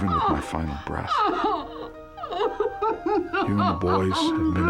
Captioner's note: sobbing